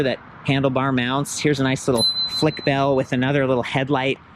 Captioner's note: bell pings